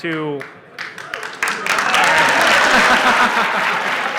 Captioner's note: applause